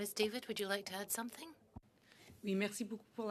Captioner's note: speaking in French